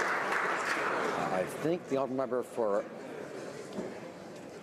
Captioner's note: some Applause